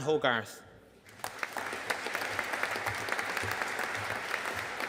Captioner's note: audience applauding